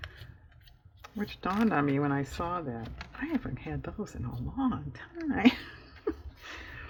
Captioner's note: laughs